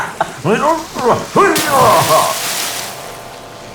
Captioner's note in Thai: หัวเราะสะใจ; ออกแรงฮึบ